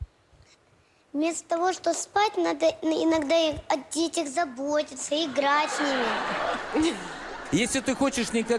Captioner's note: laugh